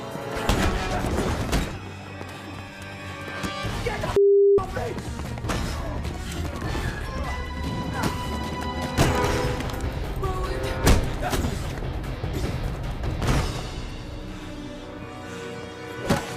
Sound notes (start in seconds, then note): 0.8 Tory groaning; 0.8 head thudding; 1.4 Tory gasping; 8.8 Roland thudding; 11.3 dramatic music; 11.3 elbow thudding